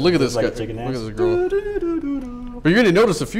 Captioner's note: humming